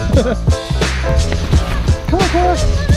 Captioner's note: laughs